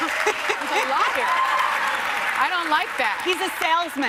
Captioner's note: applause